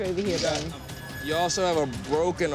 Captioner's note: squealing